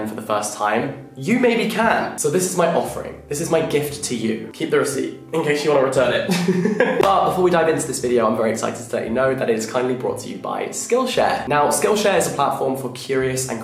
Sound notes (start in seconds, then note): 6.3 laughing